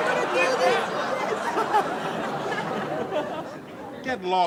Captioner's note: audience laughs